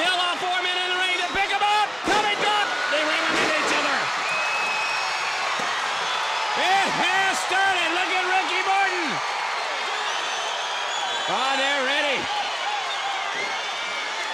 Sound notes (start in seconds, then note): 4.4 audience cheering